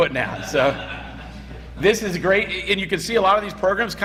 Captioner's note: laughter